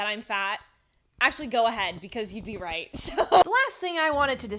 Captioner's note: laughs